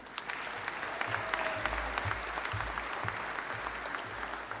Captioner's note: audience applauding